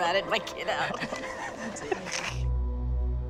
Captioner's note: quiet laughter